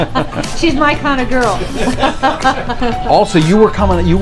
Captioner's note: laughter